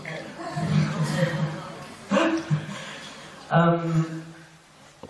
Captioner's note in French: rires